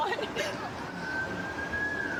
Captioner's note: siren wailing